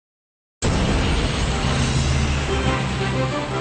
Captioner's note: plane engine roaring